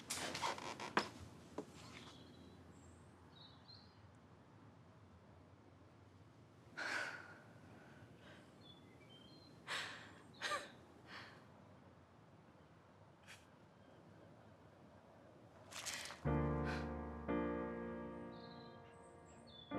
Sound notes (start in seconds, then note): 6.3 Bethany sighs; 9.1 Bethany chuckles; 16.2 soft music